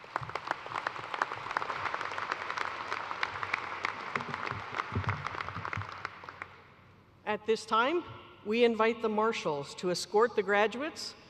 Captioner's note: applause